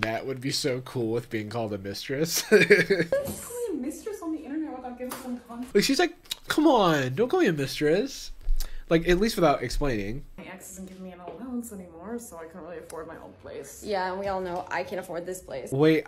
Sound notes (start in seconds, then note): 2.4 laughs